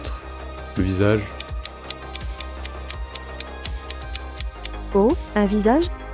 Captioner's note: tick tick tick tick tick tick tick tick tick tick tick tick